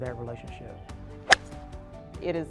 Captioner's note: golf club hitting ball